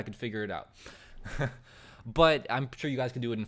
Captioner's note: chuckles